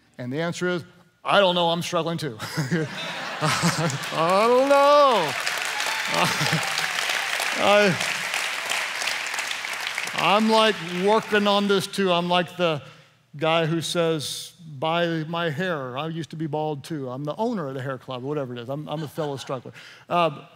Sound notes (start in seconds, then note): 2.5 laughing; 7.5 applause